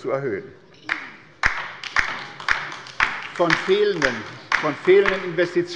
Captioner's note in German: Beifall bei der LINKEN